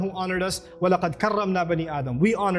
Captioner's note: Arabic